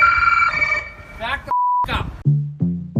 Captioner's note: beep